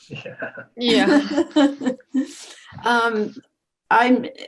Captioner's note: laughing